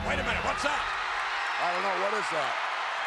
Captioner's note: crowd cheers